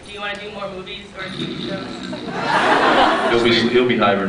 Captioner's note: snores; laughs